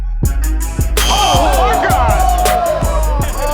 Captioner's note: buzzer; cheering